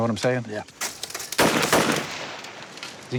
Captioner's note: gunshots